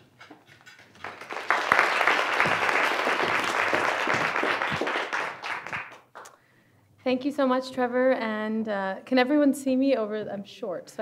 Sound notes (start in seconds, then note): 0.9 audience applauds